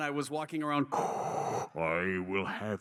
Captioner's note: breathing sounds